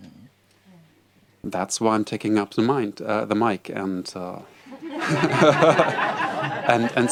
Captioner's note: laughter